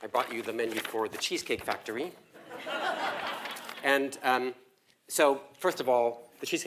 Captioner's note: laugh